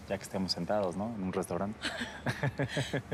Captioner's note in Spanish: risas